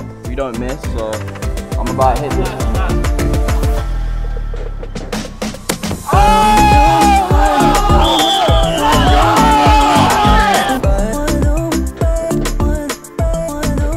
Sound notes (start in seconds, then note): 7.3 yelling; 11.0 exciting music